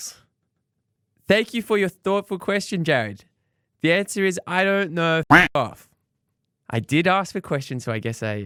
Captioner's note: quack